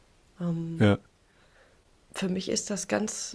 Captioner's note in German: none